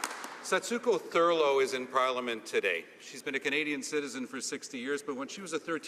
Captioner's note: some Applause